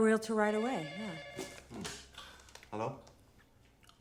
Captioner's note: phone ringing